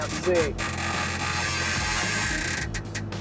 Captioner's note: creaking sound